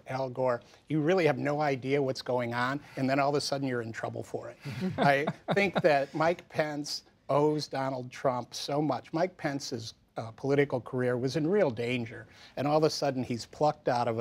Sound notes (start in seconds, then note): 4.6 laughter